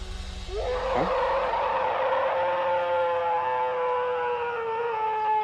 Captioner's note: alleged bigfoot roaring